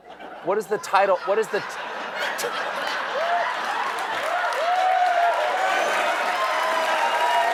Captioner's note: laughter; cheering